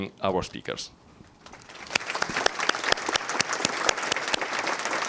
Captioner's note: audience clapping